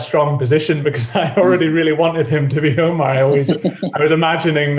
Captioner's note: laughs